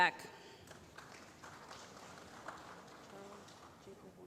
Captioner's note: applause